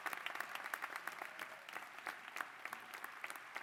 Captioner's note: applause